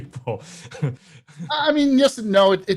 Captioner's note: laughs